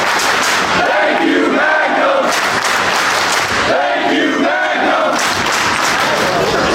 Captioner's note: clapping; clapping